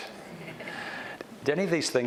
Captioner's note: audience chuckles softly